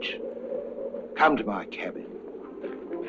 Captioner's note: wind howling; soft dramatic music